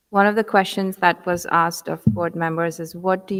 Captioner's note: none